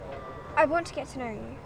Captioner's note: none